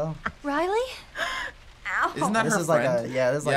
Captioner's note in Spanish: Riley riendo